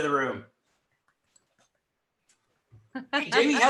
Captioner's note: laughs